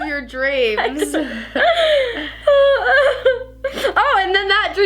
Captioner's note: laughs